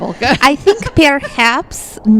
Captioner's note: laughs